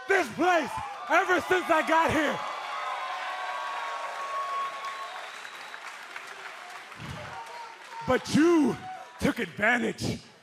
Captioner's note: cheers and applause